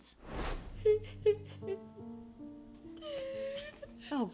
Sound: sobbing

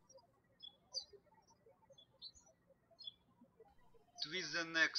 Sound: birds chirping

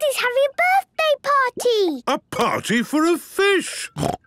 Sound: snorting

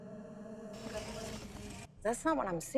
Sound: buzzing

